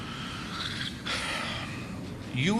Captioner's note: sigh